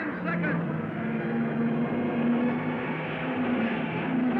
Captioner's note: cars revving